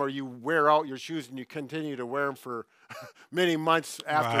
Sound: scoffs

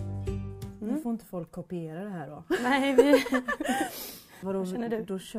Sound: laughs

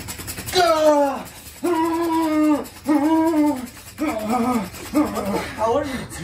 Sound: moans loudly

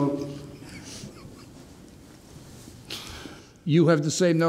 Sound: laughing

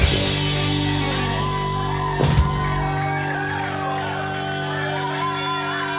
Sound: cheers

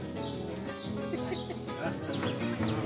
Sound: laughs

